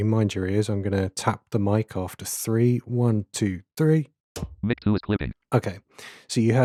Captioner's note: automated voice